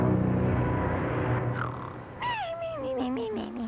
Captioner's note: snoring